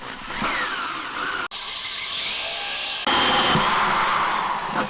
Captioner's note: drilling